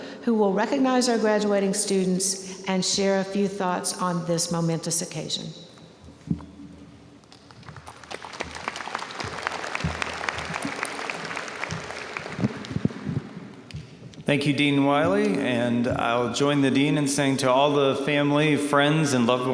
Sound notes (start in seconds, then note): 7.3 audience applauding